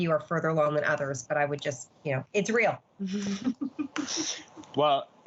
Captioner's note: all chuckling